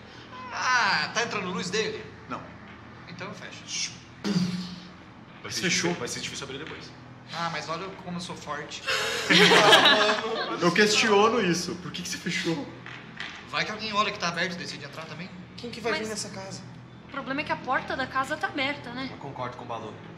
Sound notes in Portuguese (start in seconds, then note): 4.1 alçapão fechando; 8.9 Risadas